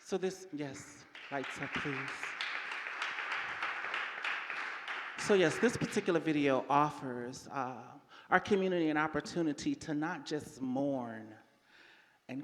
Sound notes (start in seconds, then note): 0.8 audience applauding